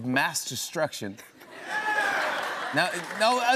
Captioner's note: laughter